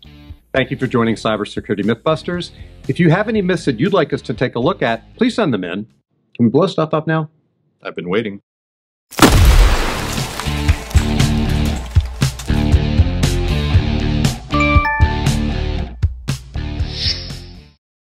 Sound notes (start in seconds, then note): 9.2 explosion